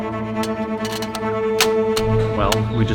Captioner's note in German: Einrast Geräusch